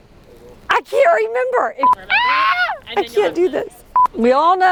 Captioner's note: screams